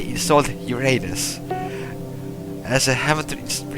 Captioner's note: ding